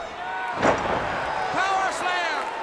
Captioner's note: body thuds